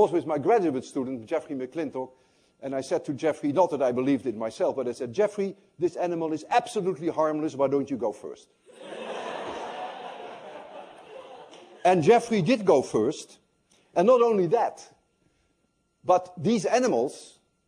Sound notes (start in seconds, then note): 8.7 laughter